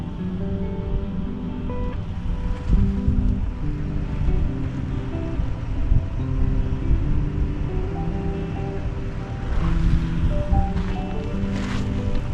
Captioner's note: wind howling